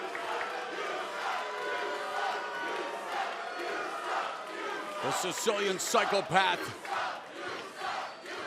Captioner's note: fans chanting